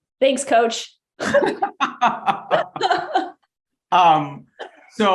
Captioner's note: both laughing